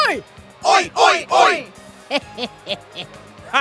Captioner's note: evil laugh